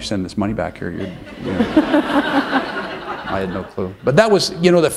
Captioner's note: laughter